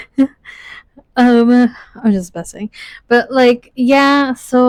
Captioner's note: laughs